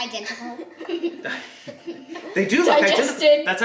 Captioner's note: laughs